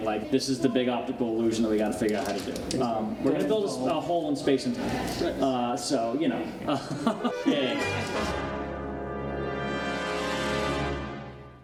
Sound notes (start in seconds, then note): 6.6 laughs; 7.8 dramatic musical sting